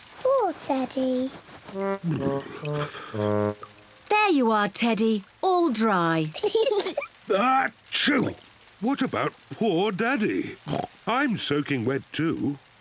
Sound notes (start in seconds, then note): 1.8 shivering; 6.3 kids giggle; 7.1 sneezes; 10.6 oinks